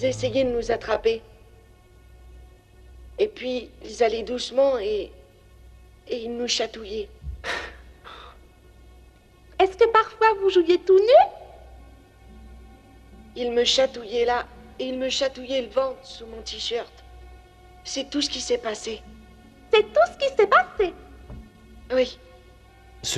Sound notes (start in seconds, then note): 7.4 scoffs